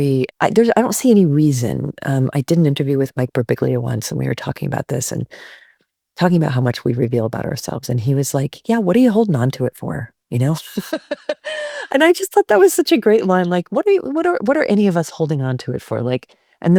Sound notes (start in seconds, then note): 10.8 laughs